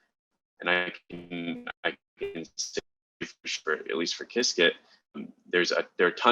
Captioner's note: faintly speaking